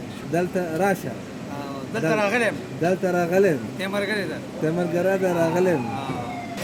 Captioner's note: talking in Pashto